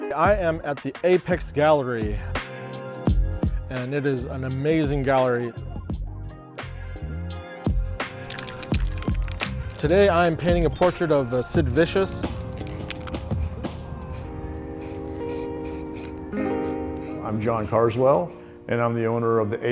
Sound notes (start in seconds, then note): 8.0 can rattling; 12.0 can spraying